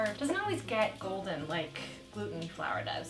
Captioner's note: none